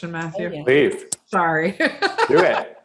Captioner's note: laughing